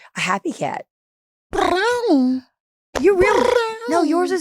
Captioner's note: Delta purring